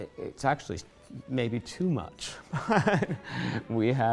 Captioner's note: laughs